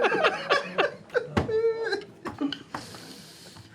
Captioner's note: laughter